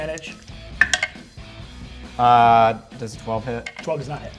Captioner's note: die rolls